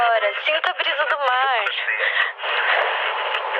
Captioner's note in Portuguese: ruído de interferência